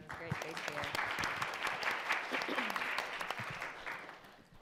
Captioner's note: audience clapping